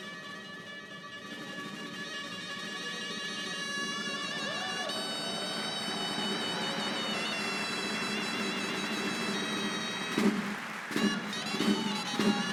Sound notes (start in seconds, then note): 4.8 applause; 8.9 band playing